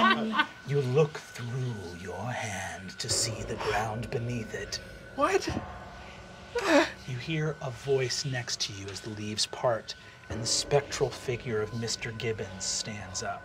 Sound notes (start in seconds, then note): 0.0 laughter; 6.5 whimpers